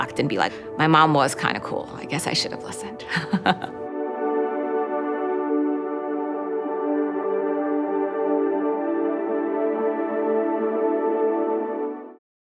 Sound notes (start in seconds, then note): 3.1 laughs; 3.9 gentle music